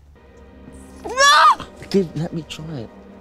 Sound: screams

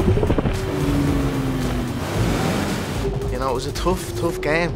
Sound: speedboat whirring

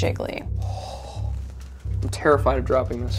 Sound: exhaling

